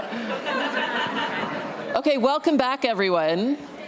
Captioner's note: laughter